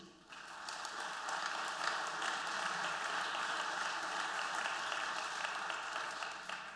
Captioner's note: applause